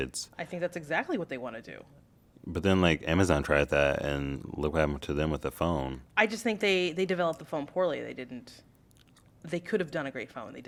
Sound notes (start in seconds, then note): none